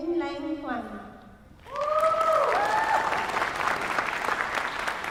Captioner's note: applause